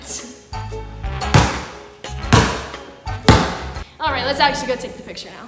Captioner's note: ball bouncing